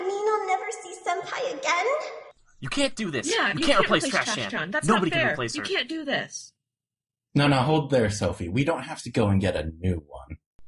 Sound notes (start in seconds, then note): 2.1 Can-kun, frantically; 4.7 Bin-san, frantically